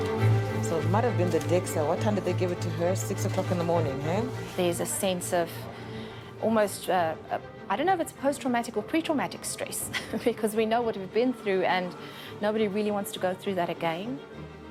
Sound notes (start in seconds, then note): 9.9 chuckles